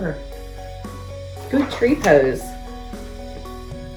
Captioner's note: pages shuffles; uplifting instrumental music